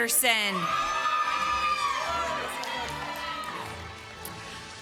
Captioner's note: applause